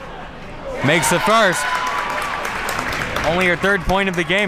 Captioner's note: crowd cheers